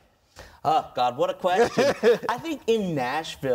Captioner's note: laughs